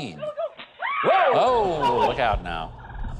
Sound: woman screams

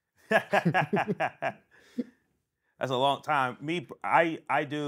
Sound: laughing

